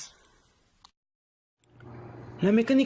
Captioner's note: silence